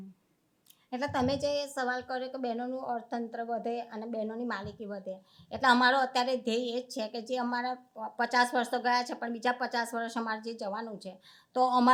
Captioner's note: speaking gujarati